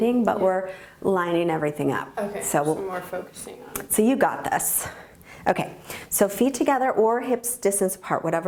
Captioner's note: none